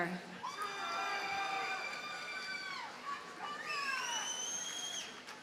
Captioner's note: audience cheers and applauds